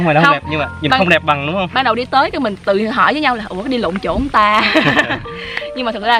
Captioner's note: laughing